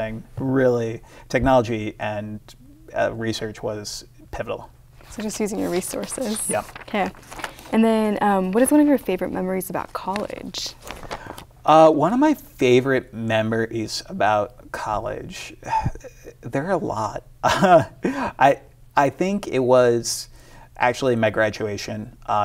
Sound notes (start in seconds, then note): 17.4 chuckles